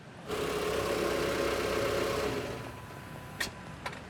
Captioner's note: car engine sound